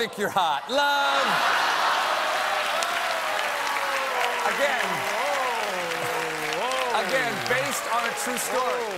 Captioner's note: laughter; applause